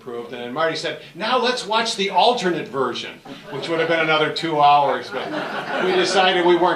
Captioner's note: audience Laughs